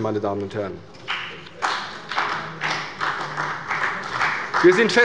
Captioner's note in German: Beifall bei der CDU und dem BÜNDNIS 90/DIE GRÜNEN